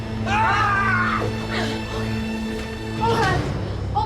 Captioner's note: yelling